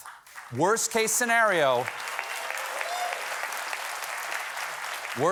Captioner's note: applause